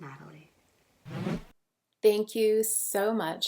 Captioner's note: transition sound